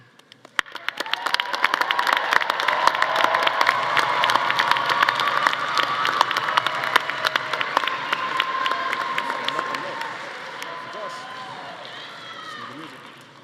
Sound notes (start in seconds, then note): 0.6 audience applauding; 0.6 audience cheering